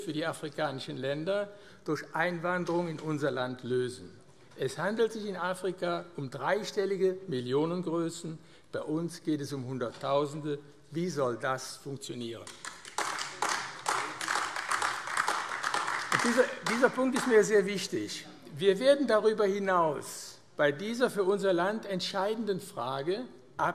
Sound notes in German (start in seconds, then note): 12.4 Beifall AfD